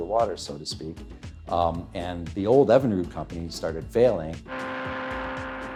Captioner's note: motors running